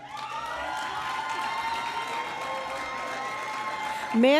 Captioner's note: cheering and Applause